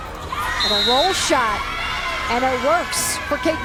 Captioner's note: voiceover